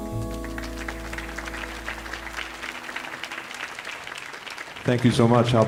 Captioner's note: audience applauding